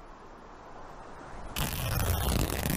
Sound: fabric rips

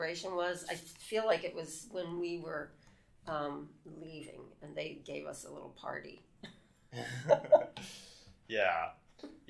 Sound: chuckles

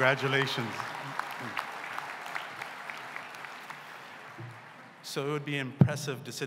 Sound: applause

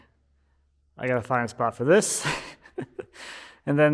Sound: chuckling

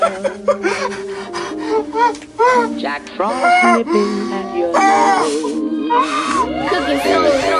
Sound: sobbing

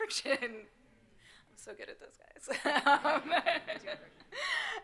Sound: chuckles

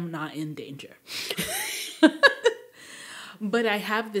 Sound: laughing

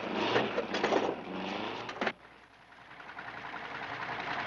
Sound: engine rumbling

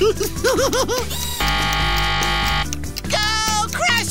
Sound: laughing; buzzer sounding

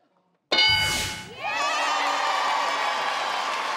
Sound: applause

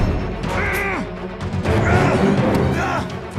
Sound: Kyle growls

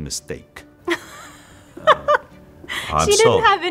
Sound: woman laughing

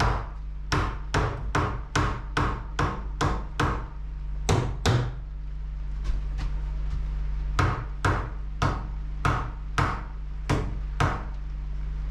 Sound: hammering

